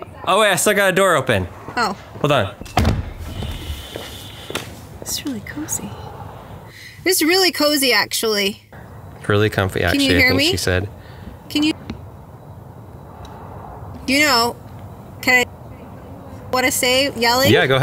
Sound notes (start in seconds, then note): 2.6 car door bangs